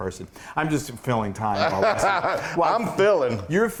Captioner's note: laugh